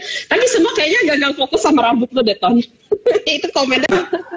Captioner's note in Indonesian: Tertawa